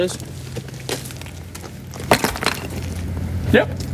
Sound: rock clanks

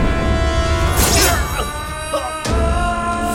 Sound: blade cuts

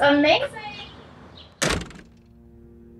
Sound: door shuts

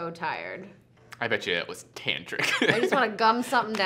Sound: laughs

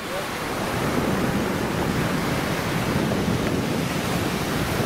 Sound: wind rustling; waves crashing

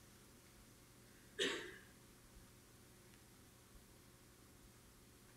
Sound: audience member coughing

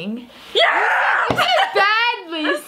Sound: laughs

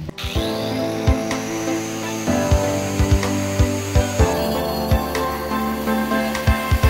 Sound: intense party music; saw hums

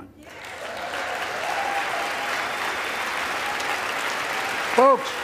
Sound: applause

